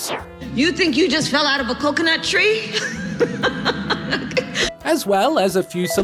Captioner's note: laughs